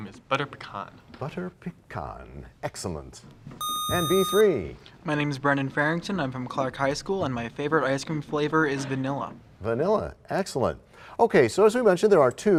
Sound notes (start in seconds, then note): 3.6 sound of a buzzer